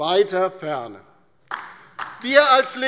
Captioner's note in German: Beifall DIE LINKE